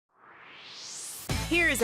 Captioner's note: swoosh